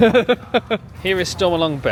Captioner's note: laughs